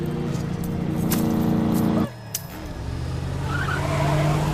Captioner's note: necklace snapping; tires squealing